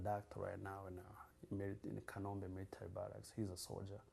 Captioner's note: non-english